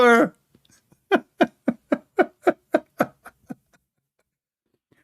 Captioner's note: Ketawa